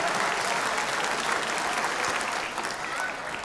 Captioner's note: applause